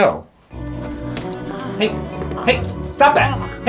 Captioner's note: doll sex noises